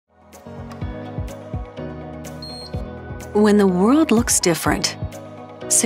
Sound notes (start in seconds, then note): 0.3 upbeat music; 2.4 scanner beeps